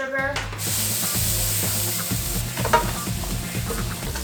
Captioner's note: sizzling sound